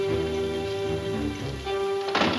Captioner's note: door closes